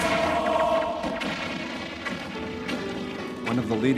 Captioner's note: gunshots blasting